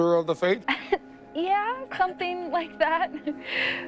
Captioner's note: chuckles